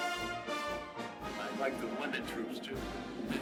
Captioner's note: Stone speaking